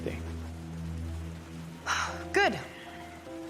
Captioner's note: sighs